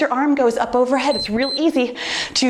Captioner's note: timer beeps